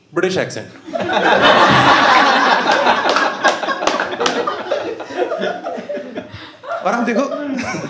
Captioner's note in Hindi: हँसना